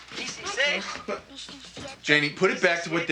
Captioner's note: The Count speaking Spanish